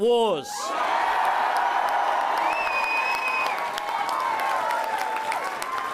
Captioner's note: crowd cheers